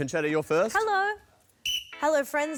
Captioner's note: blows whistle